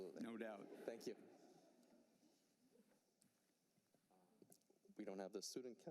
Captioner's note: laughter